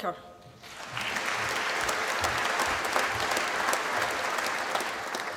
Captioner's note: applause